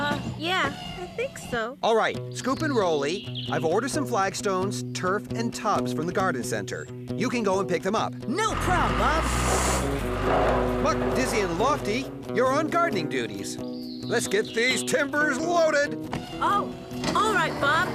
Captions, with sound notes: UH, YEAH, I THINK SO. ALL RIGHT, SCOOP AND ROLEY, I'VE ORDERED SOME FLAGSTONES, TURF AND TUBS FROM THE GARDEN CENTER. YOU CAN GO AND PICK THEM UP. NO PROB', BOB! ( Engines Revving ) MUCK, DIZZY AND LOFTY, YOU'RE ON GARDENING DUTIES! LET'S GET THESE TIMBERS LOADED! OH, ALL RIGHT, BOB.